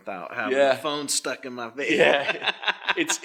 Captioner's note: laughs